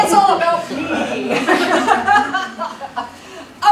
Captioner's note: laughter